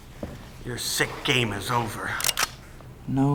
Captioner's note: gun clicks